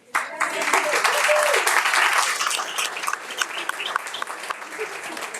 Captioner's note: audience applauding and cheering